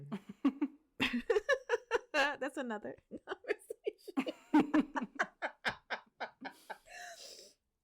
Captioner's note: laughs